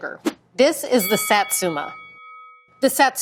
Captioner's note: bell dings